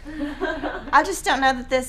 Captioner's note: laughing